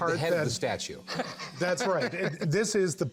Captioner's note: laughs